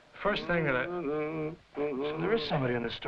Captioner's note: Jakob humming